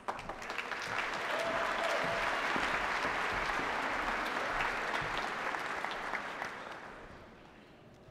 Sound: applause

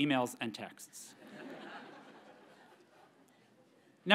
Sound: audience members laugh

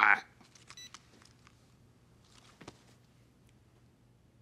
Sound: phone beeping

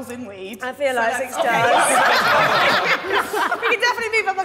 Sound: all laughing

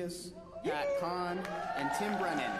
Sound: applause

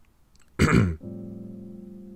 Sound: awkward cough

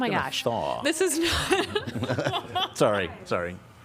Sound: laughter

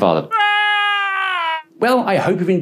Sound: scream

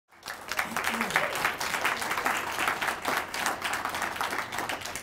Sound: audience applauds

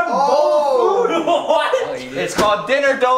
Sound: laughing

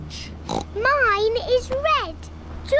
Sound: oinks

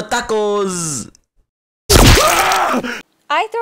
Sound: mike death sound

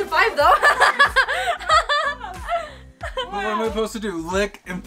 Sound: laughter

